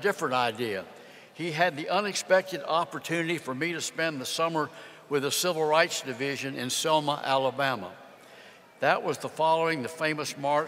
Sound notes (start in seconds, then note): none